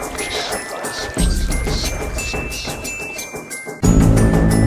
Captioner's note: demonic whispering